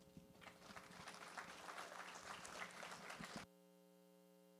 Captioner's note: applause